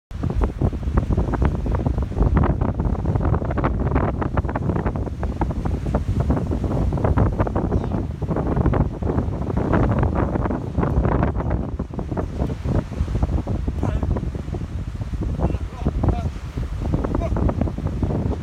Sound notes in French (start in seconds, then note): 2.0 coup de vent